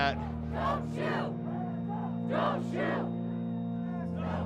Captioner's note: chanting